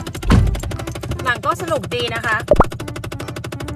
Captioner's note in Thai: เสียงคลิกในรถ